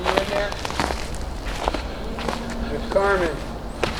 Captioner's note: homeless person chattering quietly